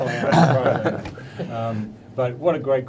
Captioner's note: panel laughing